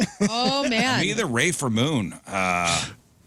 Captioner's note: laughing